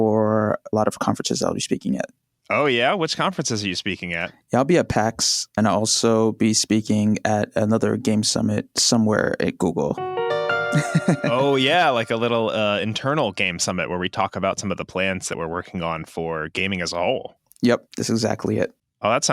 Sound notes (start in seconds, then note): 9.9 piano music; 10.8 laughs